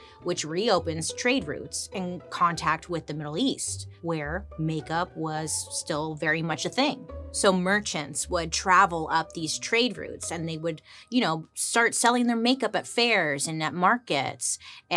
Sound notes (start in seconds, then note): none